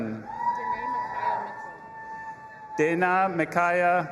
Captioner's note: audience applauding and cheering